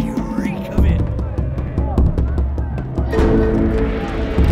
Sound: distant shouting

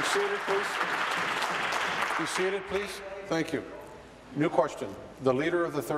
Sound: applause

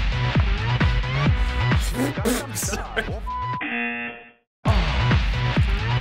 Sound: sputters; buzzer

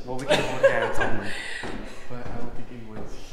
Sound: laughing

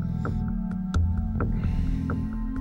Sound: exhales

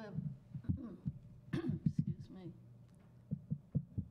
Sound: clears throat

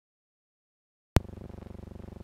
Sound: silence

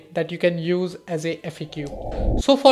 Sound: swishing

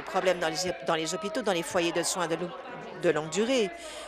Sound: applause

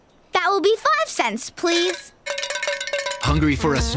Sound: coins clinking

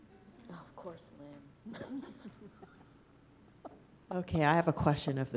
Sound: laughs

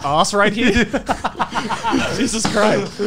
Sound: laughs

